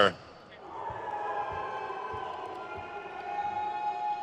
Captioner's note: crowd cheers